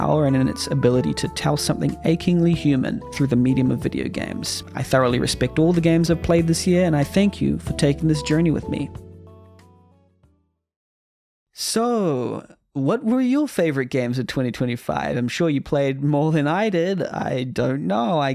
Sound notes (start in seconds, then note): 8.9 the first silence we've heard in a hot minute